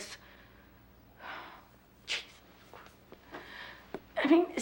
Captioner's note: sighs